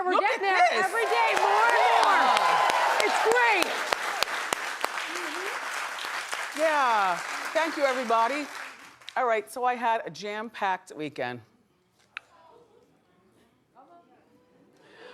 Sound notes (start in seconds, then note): 5.9 audience applauding